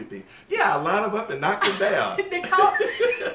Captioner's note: laughter